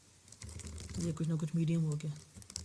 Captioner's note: typing